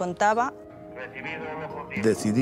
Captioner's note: police radio